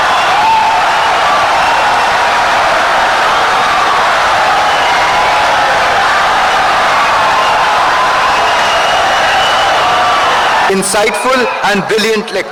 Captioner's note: wild applause and cheering for 17 seconds